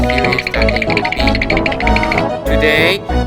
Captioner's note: spooky sound effect plays